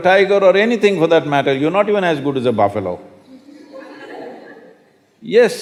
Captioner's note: laughter